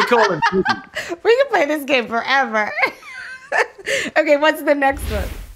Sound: laughing

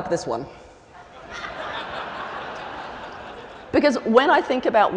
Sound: laughter

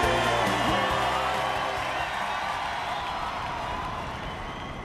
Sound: crowd cheering

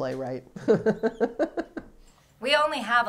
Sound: laughs

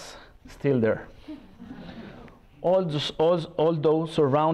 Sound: laughter

